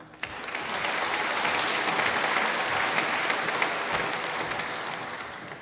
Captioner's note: applause